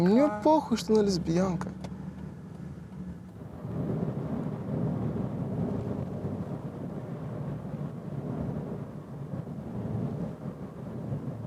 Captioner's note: speaking russian